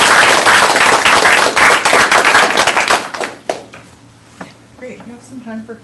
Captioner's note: applause